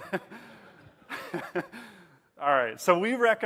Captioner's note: laughing